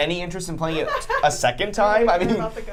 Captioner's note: laughing